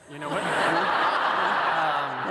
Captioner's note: laughter